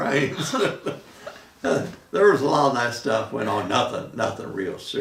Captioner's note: laughing